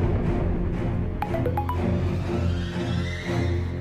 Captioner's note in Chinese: 訊息鈴聲